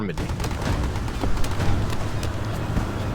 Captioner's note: guns firing; dramatic music